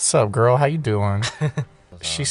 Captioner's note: Monty laughs